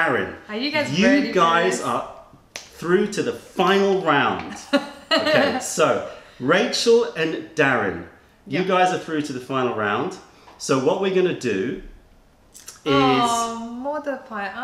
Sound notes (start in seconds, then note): 4.5 laughter